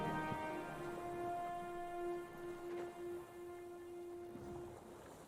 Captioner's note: music fades to ocean sounds